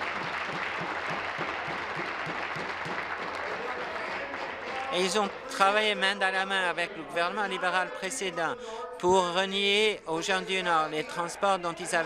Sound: applause

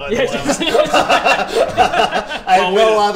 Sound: laughs

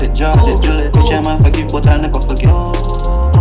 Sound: oooh

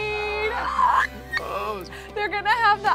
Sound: squeals

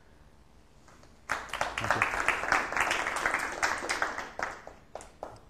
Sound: applause

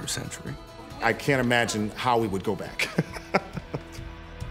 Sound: laughs

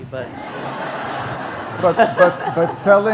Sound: audience laughs

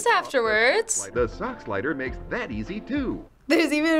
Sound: voice-over

